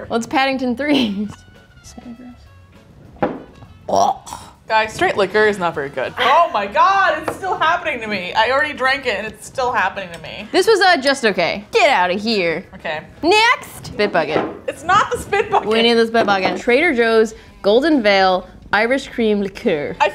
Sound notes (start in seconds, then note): 3.8 gagging